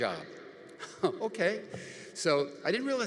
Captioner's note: laughs